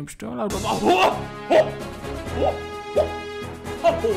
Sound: hooting and gasping

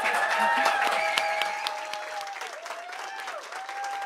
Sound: applause

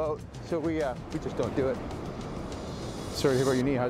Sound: adventurous music; voiceover

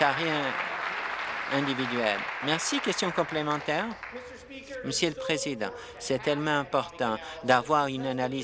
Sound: applause

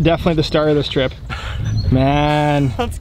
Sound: laughs

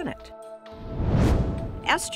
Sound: whoosh

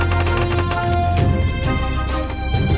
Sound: shooting

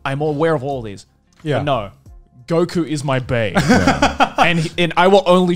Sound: laughing

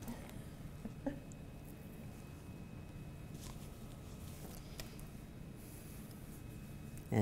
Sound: laughter

